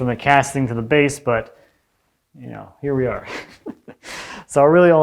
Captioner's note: chuckles